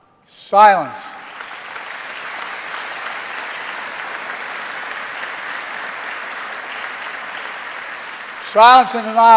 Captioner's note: applause